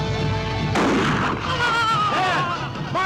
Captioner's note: tense orchestral music; gunshot cracking